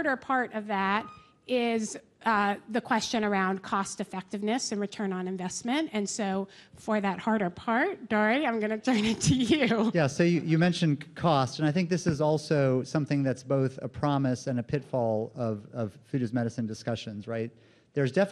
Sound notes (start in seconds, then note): 9.1 laughs